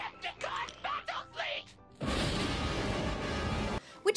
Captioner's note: thunder claps